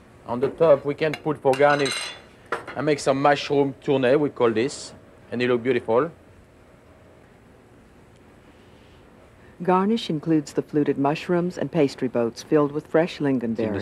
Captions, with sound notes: on the top we can put for garnish, I make some mushroom tuna, we call this a little beautiful. - [Voiceover] Garnish includes the fluted mushrooms and pastry boats filled with fresh lingonberries.